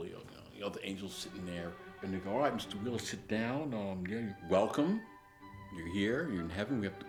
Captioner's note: deepens voice for the Angel